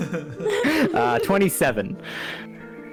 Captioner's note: giggles